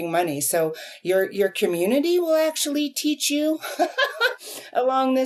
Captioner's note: laughs